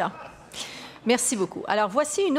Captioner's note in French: rires